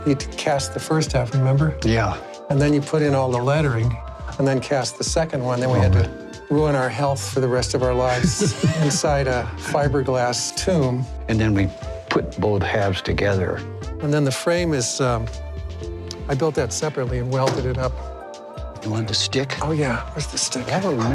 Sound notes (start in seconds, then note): 8.0 laughter